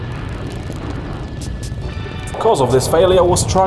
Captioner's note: boom